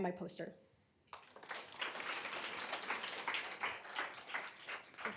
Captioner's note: applause